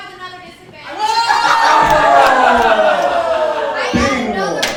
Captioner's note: audience laughing